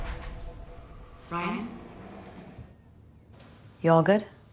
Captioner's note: echoing